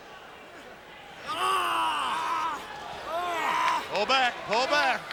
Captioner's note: liger grunting